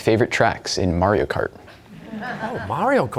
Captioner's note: laughter